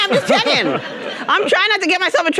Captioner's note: audience laughing